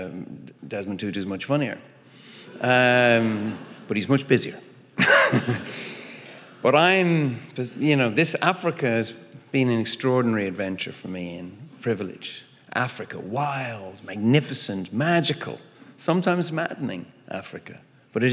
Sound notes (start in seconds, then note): 2.6 audience laughing; 5.0 laughing